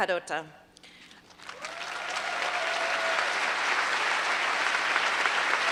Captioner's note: applause